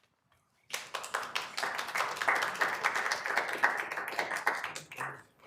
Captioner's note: attendees clapping